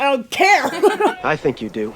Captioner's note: laugh